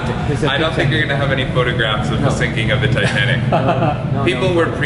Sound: laughing

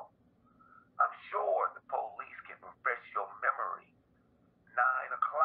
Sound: speaker phone

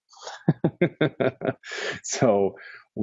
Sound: laughter

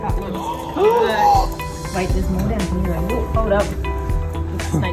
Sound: gasping

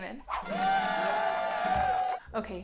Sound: crowd cheering

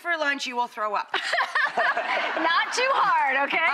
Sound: all laugh

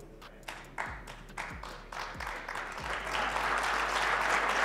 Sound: audience claps

